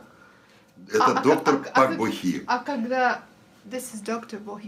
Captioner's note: foreign language